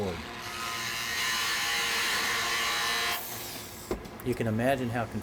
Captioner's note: machine whirs